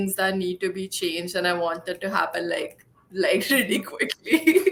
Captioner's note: laughing